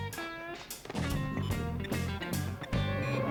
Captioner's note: old school video game beeps